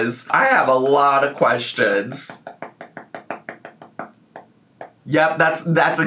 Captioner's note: fingers pounding on keys